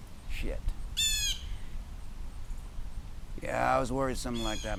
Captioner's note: bird squawks